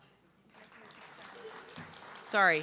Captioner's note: audience clapping